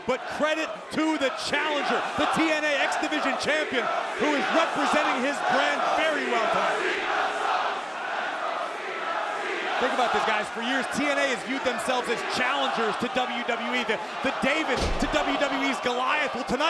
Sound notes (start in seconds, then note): 7.0 crowd chants